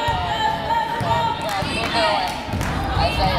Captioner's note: yelling